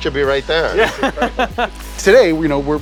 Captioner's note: laughing